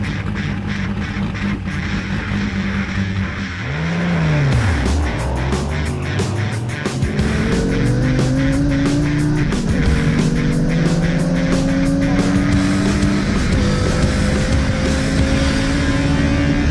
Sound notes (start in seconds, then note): 2.3 car engines roaring